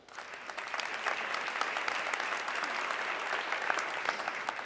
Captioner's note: audience clapping